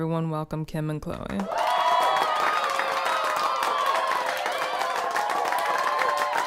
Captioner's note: audience cheering and applauding